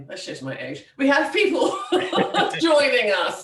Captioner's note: laughs